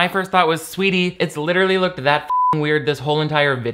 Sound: beep

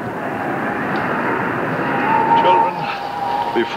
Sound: wind howling

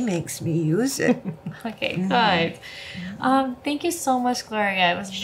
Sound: laugh

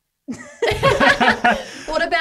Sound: all laugh

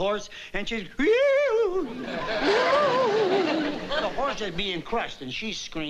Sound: wailing

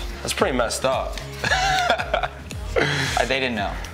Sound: laughs

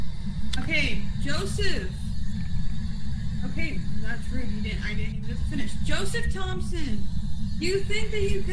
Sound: spirit box static begins

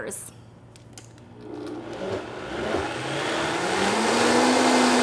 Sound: blender whirring

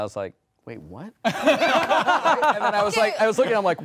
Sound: all laughing

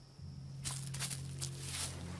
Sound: leaves rustling

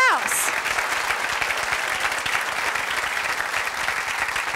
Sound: audience applause

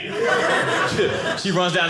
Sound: audience laughing

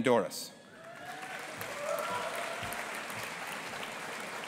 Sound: audience applauding

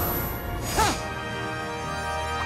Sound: grunting

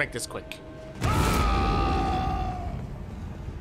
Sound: a drawn out roar

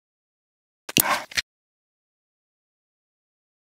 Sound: clicking sound

